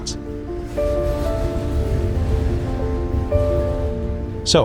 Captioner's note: train rustling